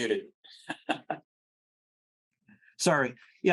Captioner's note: laughing